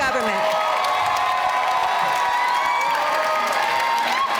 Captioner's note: applause